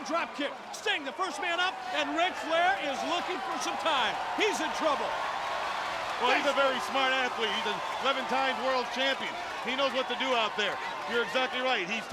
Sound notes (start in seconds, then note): 5.3 crowd cheering